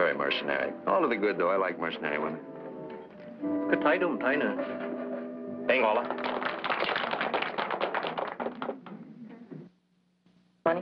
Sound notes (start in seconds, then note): 2.8 speaking chinese; 5.7 applause